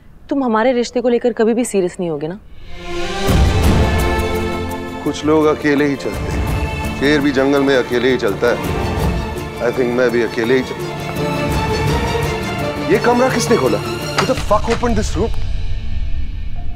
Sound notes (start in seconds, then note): 13.8 Door opens